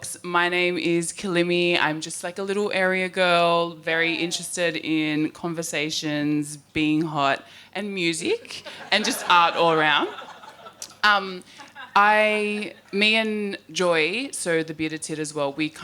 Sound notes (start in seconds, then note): 10.4 audience laughing